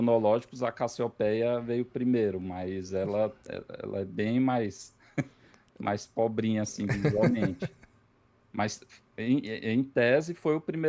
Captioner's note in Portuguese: risadas